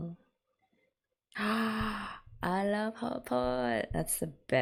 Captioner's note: gasps